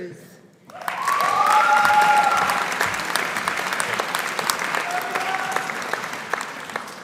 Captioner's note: audience applauding; audience cheering